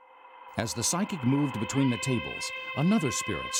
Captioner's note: voiceover